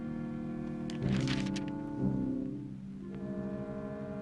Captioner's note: paper rustling